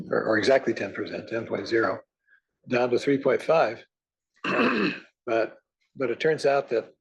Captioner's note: cough